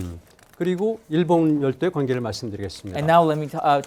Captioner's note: speaking in Korean